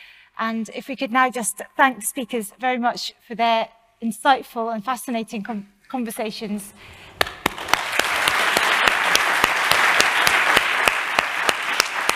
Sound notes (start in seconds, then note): 6.9 audience applauding